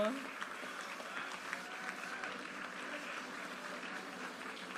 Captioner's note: audience applauding